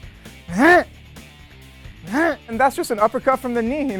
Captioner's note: grunts